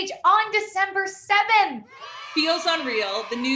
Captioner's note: cheers